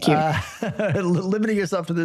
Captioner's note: panelists laugh